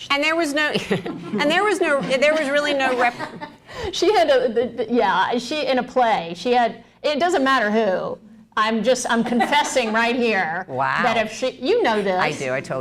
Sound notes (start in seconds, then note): 0.7 laughter